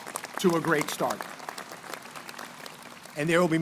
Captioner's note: crowd applauding